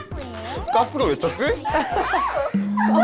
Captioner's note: teasing laughter; in an embarrassed voice